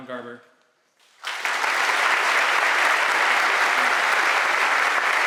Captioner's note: audience applauding